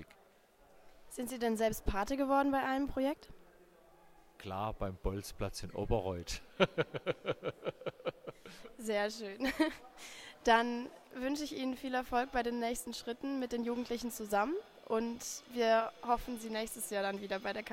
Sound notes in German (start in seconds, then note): 6.5 lacht